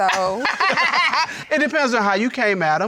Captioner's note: laughs